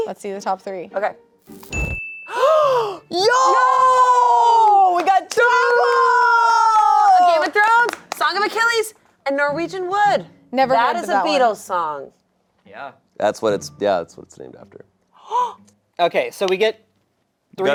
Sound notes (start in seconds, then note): 2.3 gasping